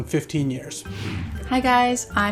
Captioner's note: air whooshing